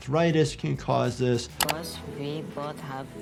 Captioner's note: mouse clicking